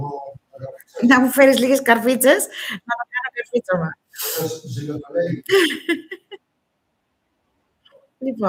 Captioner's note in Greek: γέλια